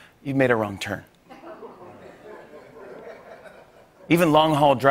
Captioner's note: laughter